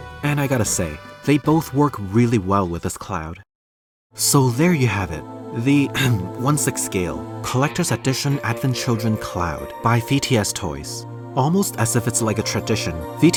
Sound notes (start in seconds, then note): 5.9 cough